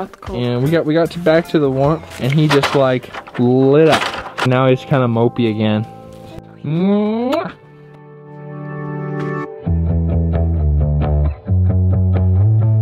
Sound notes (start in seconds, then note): 6.8 kissing noise